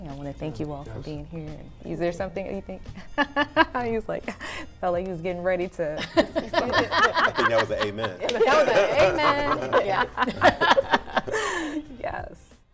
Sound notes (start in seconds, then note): 3.4 laughs; 6.0 laughter